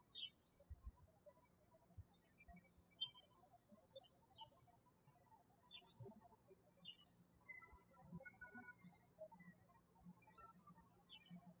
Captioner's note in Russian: птички щебечут